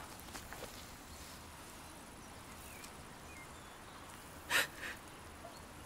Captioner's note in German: Schluchzen